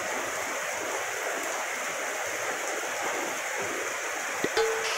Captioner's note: sound of heavy rain